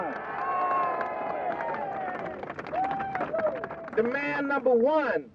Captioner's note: crowd cheering